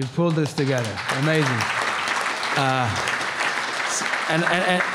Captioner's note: audience applause